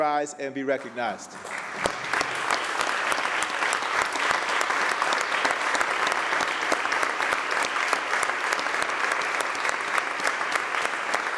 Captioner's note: applause